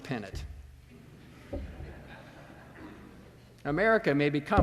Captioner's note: laughter